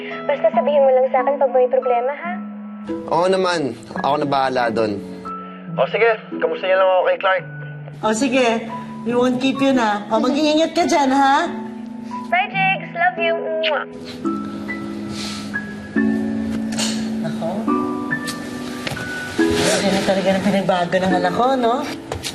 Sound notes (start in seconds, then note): 13.9 gentle music continues; 15.1 exhales softly